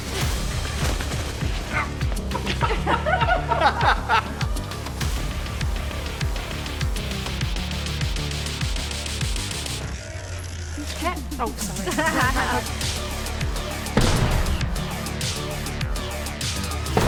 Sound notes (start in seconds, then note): 2.2 all laughing; 11.6 both laughing; 13.9 head thudding; 16.8 head thudding